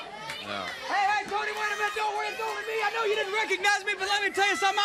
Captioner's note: crowd cheering